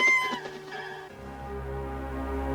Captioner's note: squawk